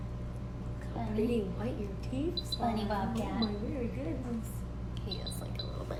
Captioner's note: chatter